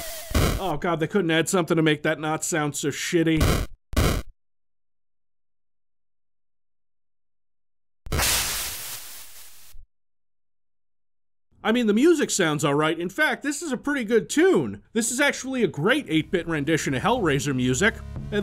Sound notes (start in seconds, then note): 3.7 weapon firing